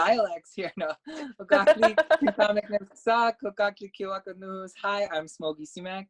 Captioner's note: laugh